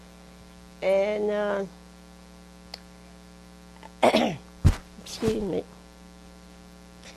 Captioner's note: coughs